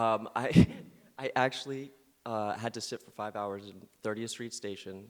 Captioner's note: chuckles